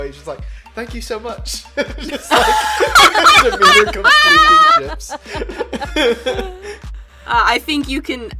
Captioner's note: laughs